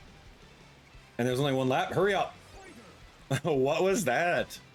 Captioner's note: laughs